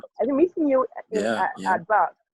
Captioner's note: laughs